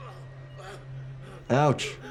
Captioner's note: man gasps